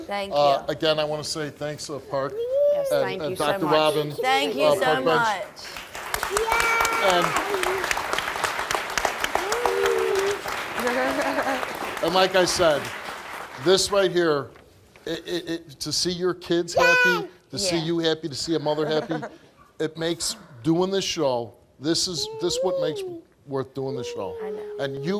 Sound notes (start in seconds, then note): 5.5 crowd applauding